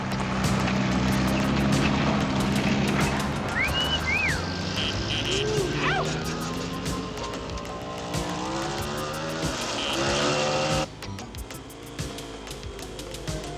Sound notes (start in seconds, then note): 3.7 men catcalling; 8.1 motorcycle engines roaring